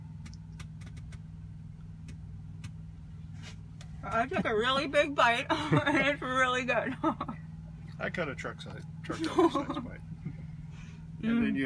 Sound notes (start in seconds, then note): 5.4 laughs